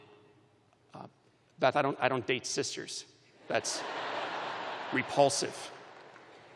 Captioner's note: laughter